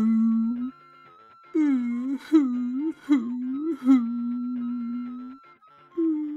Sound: deep sobbing

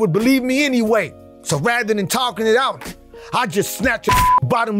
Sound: beep

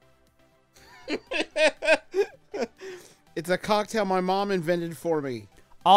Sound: laughs

